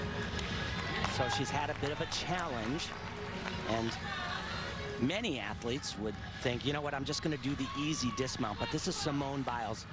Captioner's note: cheers